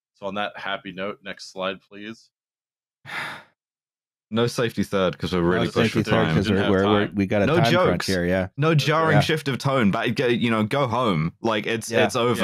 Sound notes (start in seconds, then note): 3.1 sighs; 9.1 quietly